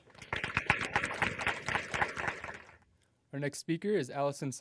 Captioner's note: applause